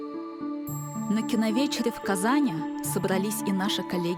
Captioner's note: in Russian